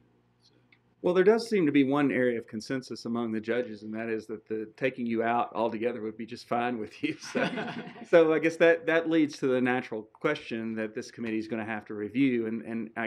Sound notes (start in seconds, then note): 7.2 laughing